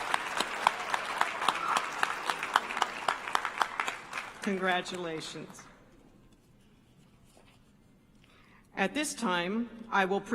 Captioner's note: applause